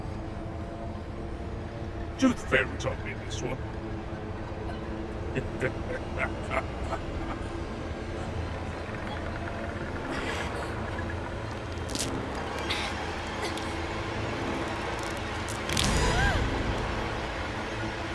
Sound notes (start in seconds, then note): 5.3 leprechaun laughing; 11.4 tooth crunching; 15.9 Linda gasping